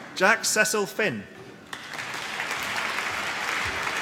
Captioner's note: applause